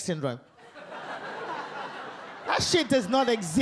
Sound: audience laugh

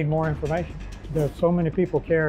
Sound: whooshing

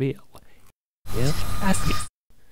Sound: rewinding sound, briefly

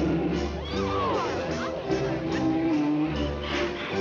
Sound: bear growling; woman screaming; bear growling; dramatic music

